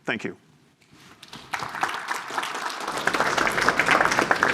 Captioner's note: applause